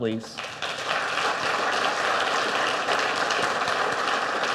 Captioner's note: audience applauds